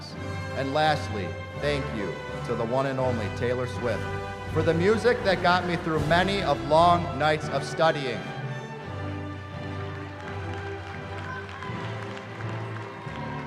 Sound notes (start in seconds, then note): 9.3 applause